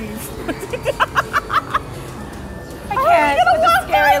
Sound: laughing

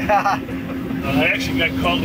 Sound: both laugh

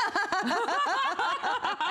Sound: laughter

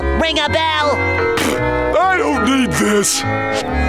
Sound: blowing raspberries

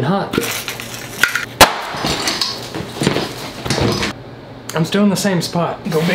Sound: explodes; clattering

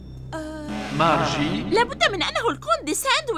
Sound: buzzer sounding

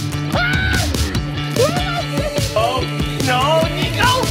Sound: screams

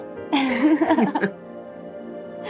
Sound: laughter

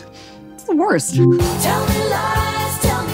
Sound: Alexa chimes

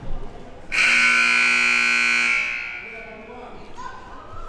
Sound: siren buzzing

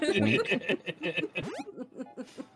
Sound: laughing

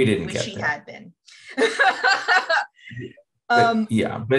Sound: laughter

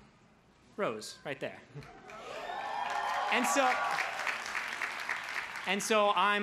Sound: crowd cheers

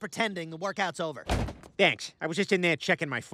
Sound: door opens

